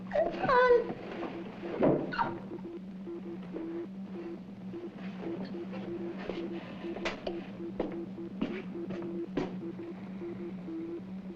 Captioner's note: whimpering